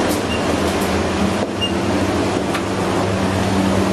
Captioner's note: device beeping